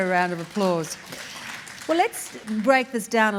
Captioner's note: audience applauds